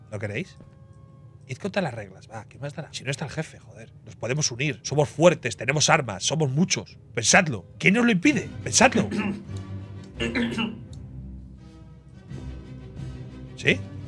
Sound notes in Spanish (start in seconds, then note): 8.9 carraspea; 12.1 Música animada